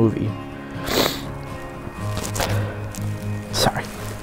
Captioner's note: sniffling